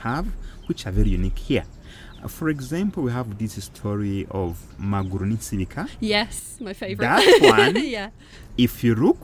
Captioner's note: laughing